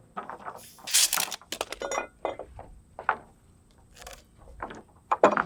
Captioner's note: wood clanking